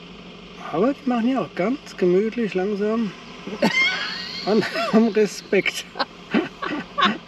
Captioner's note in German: gelächter